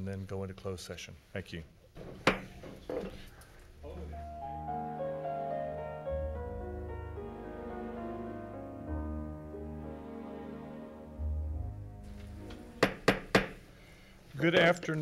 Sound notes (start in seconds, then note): 2.0 gavel bangs; 4.7 gentle music; 12.8 gavel bangs